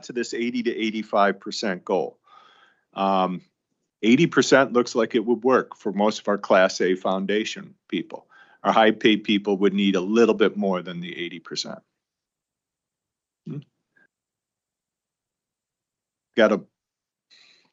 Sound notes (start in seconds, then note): 13.5 clears throat